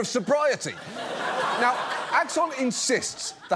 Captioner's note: audience laughs